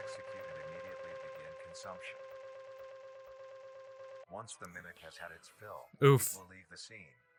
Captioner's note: oof